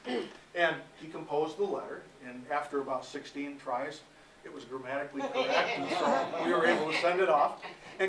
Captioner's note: laughter